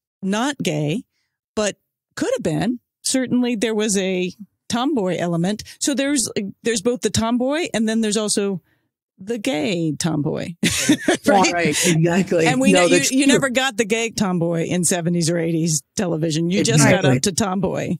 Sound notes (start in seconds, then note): 10.6 laughs